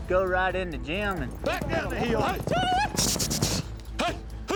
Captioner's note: all shouting, prompting herd